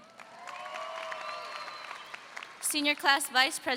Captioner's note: audience cheers